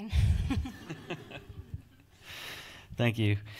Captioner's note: audience laughs